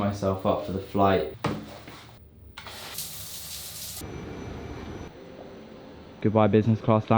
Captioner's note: shoe dropping; water splashing